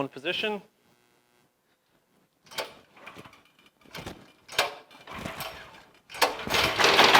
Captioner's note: engine start and running sound